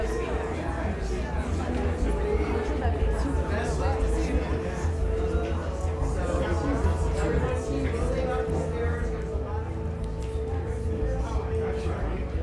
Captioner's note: crowd murmering